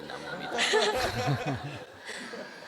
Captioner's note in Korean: 청중 웃음